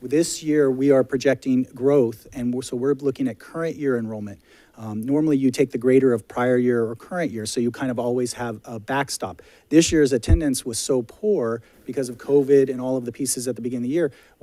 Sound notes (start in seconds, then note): none